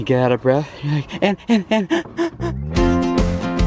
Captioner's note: gasping; gentle music